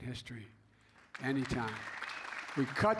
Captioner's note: applause